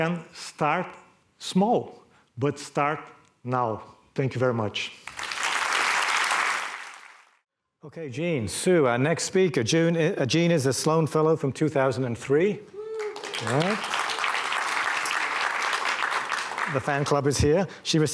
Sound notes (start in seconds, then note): 5.0 applause; 12.9 audience applause